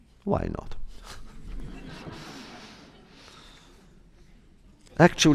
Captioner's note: laughs, laughter